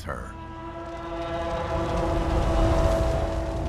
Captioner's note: roaring